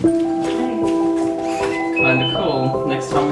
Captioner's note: chiming